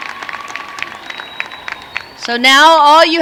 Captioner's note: applause